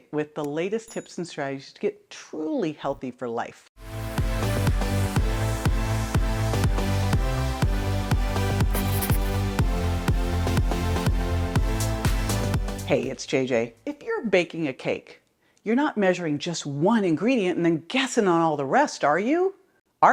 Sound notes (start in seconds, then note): 4.0 upbeat music; 8.6 pen scratches